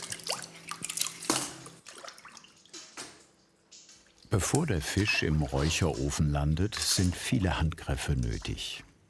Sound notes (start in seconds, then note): 2.4 splashing